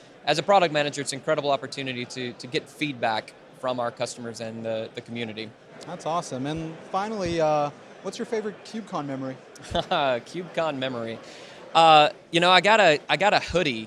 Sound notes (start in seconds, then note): 9.6 laughs